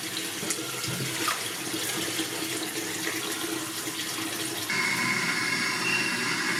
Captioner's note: running water